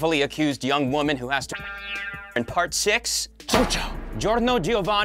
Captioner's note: spring noise